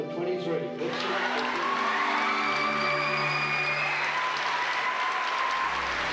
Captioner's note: audience applauding and whooping